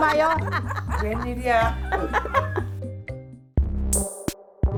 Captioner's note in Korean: ㅋㅋㅋㅋㅋㅋㅋㅋㅋㅋㅋㅋ